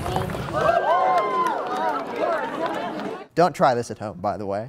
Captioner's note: excited cheers